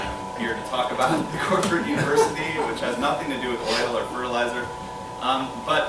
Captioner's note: laughter